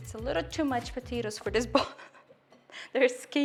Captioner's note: laughing